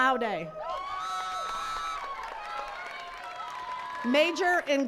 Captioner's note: attendees cheering and clapping